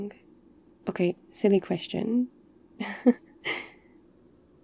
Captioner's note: laughs